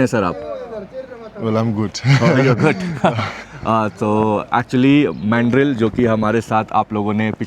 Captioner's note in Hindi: हंसी